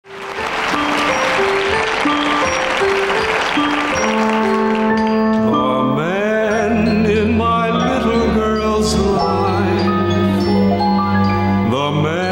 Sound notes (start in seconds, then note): 0.0 audience applauding